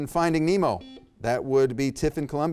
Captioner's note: buzzer beeps